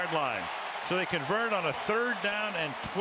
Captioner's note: cheering